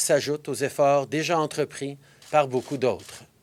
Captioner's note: speaking french